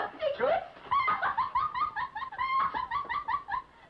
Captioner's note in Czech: Smích